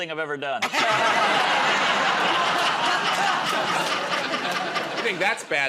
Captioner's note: laughter